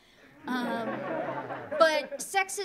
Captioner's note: audience laughing